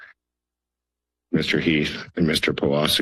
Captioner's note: pause